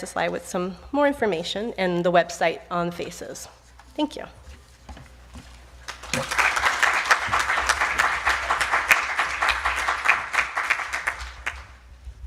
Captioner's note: applause